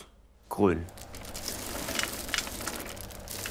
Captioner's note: rattling